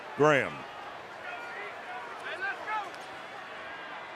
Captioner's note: yelling